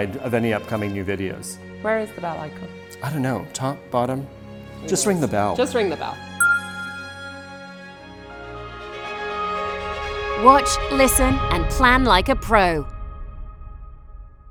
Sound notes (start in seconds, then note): 6.4 bell ringing; 8.6 upbeat music